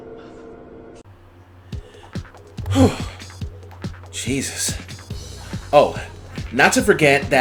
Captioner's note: screaming